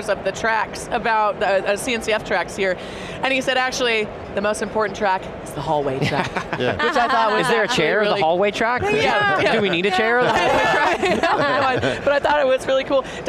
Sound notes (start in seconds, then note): 11.1 group laughs